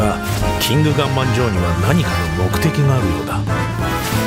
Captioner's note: Japonês - mantido no original